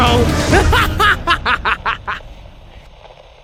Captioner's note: manic laughing